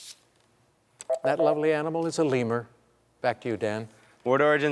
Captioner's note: beep